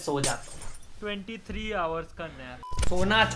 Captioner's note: surprised Luffy noises